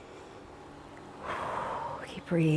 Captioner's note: deeply exhales